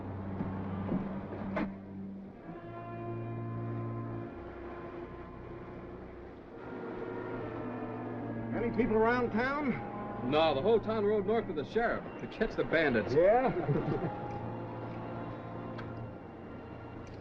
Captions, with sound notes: [ SUSPENSEFUL MUSIC ] Many people around town? No, the whole town rode north with the sheriff to catch the bandits. - Yeah? [ ALL CHUCKLES ]